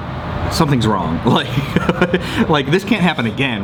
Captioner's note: laughing